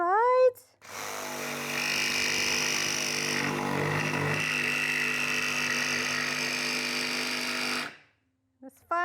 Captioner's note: saw cutting